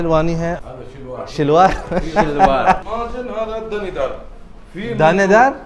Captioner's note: Arabic